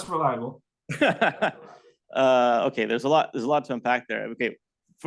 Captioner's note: laughs